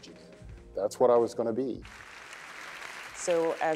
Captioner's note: applause